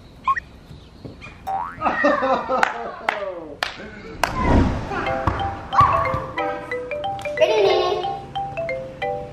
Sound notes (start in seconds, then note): 1.4 spring boings; 1.8 laughing; 4.9 playful music